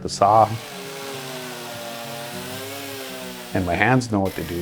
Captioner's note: chainsaw buzzes